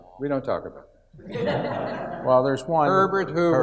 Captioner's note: audience laughs